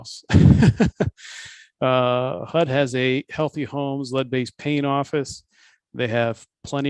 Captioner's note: laughs